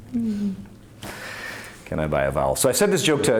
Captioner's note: laughs